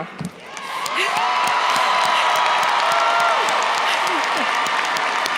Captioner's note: audience cheers and applauds